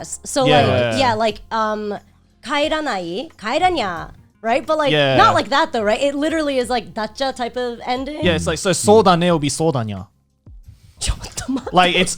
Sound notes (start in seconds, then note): 2.2 speaking Japanese; 11.4 laughing